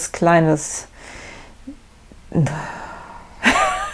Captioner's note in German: stöhnt; lacht